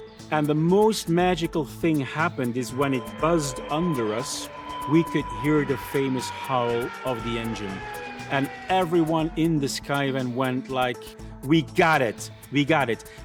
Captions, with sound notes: And the most magical thing happened is when it buzzed under us, we could hear the famous howl of the engine! [F-104 engine howl] And everyone in the Skyvan went like, we got it! We got it!